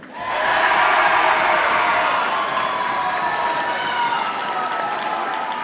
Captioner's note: audience cheers and applauds